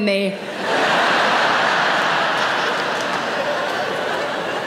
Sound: audience laughing

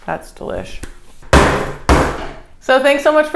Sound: pounding

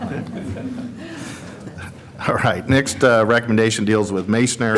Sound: laughter

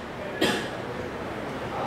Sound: cough

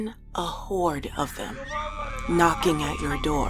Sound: various people yelling, laughing, and screaming

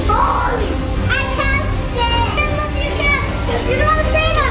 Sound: children shouting

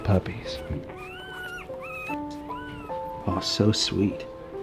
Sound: puppies whine

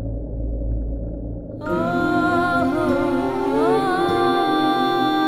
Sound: emotional vocalising

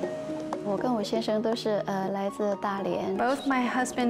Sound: speaking chinese

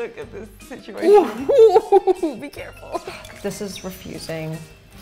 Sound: laughing

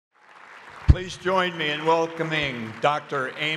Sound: audience applauds

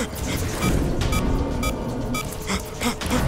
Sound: beeping

